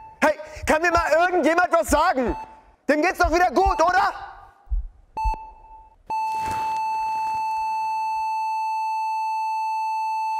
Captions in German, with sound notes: Hey, kann mir mal irgendjemand was sagen! Dem geht's doch wieder gut, oder? (Regelmäßiges Piepsen) (Langgezogener Piepton)